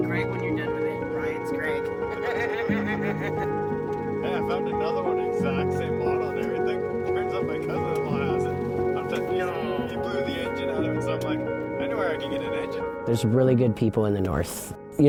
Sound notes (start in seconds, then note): 1.6 laughing